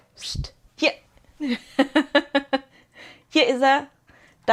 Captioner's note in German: Gelächter